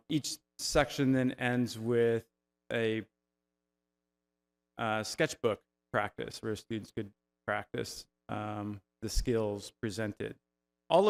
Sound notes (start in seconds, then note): none